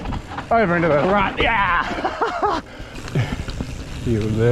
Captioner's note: laughs